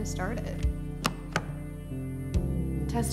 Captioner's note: door handle clacks